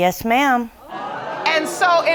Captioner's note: audience gasping